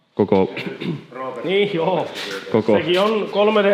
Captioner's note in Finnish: rykäisee